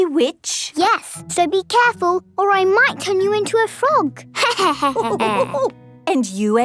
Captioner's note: laughter